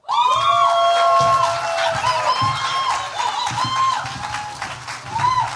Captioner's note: cheers, applause